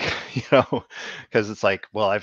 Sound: laughs

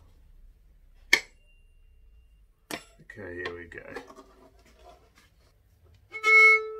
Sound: metal banging; bright violin playing

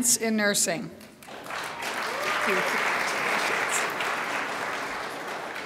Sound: crowd applauds

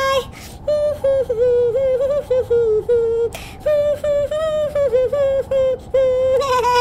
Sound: humming

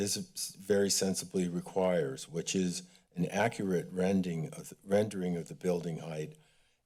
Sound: none

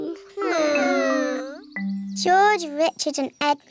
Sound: whining

